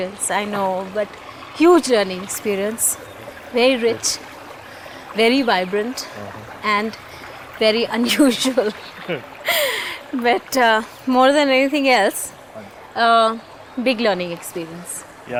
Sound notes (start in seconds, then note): 8.0 laughs